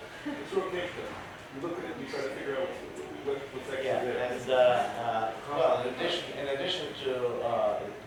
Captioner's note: chatter with audience